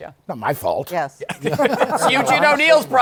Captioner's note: laughter